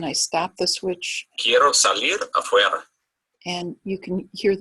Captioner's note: man speaks in foreign language